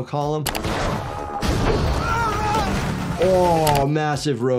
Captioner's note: yelling